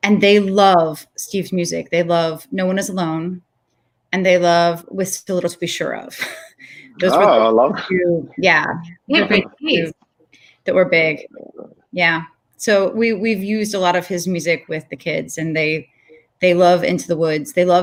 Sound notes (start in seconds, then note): 6.5 laughs